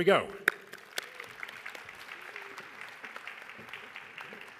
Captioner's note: audience claps